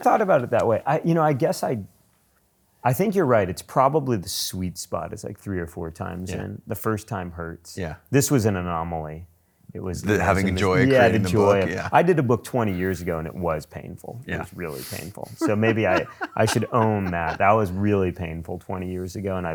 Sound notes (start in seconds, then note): 15.4 laughs